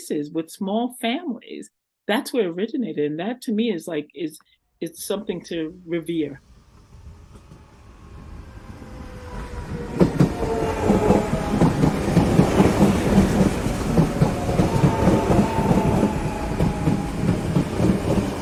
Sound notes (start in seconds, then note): 6.4 rhythmic sounds of electric train pulling into station